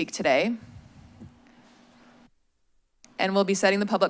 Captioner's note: silence